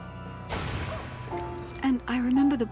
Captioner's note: cannon fire booming